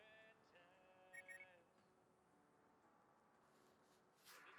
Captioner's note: radar beeping